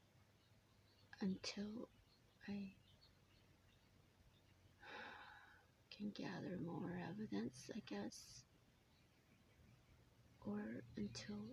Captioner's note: sigh